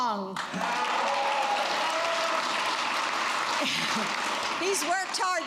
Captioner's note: applause